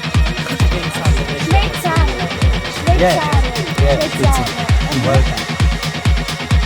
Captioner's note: in Georgian